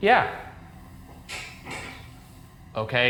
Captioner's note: object clattering